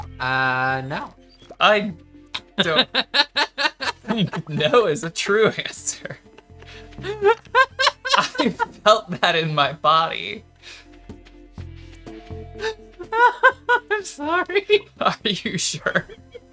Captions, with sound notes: Uh, no. I... don't... (Laughing) No is a true answer. (Laughing) I felt that in my body. (Laughing) I'm sorry. Are you sure?